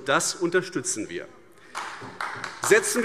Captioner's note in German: Beifall AfD